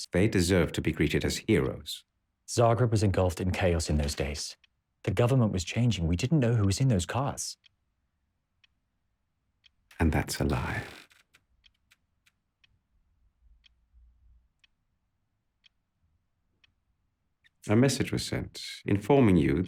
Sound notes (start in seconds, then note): 11.8 clock ticking